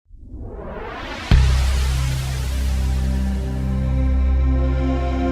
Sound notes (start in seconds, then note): 0.1 logo whooshing